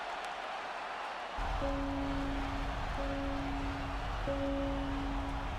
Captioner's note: applause